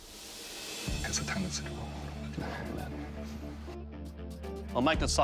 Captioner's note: whispering